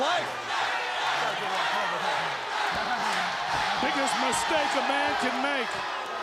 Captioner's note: crowd cheering